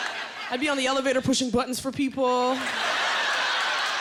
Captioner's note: laughter